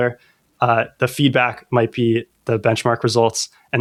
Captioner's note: uh